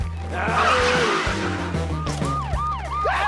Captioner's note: siren wailing